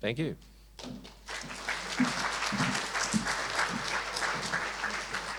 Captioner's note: audience applauds